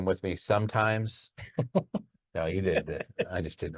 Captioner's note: laughing